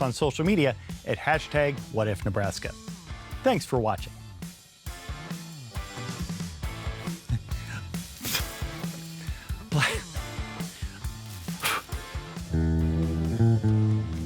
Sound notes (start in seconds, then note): 3.2 upbeat music; 9.6 upbeat music; 9.7 laughs; 11.1 upbeat music